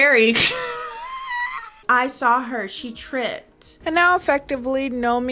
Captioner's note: laughing